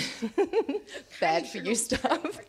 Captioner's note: laughs